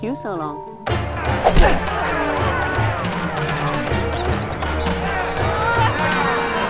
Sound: crowd Cheering

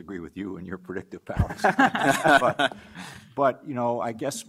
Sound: panelists laugh

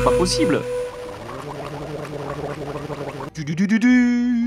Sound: sound of a person drinking loudly

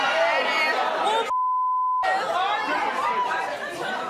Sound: audience shouting

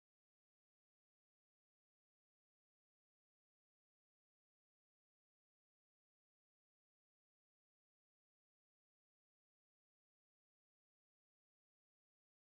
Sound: crowd noise

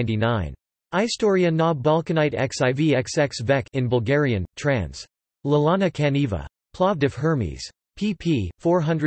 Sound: in Bulgarian

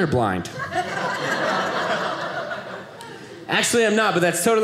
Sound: audience laughing

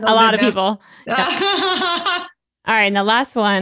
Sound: laughs

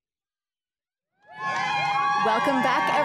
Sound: audience cheering

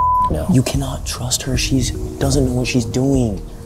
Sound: beep

